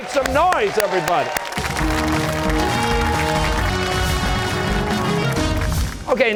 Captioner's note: cheers and applause